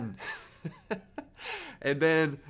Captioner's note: laughs